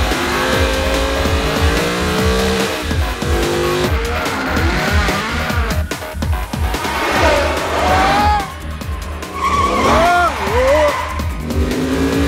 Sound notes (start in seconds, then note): 9.3 screams